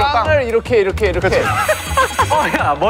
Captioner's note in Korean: 하하핳하하하하핳ㅎ핳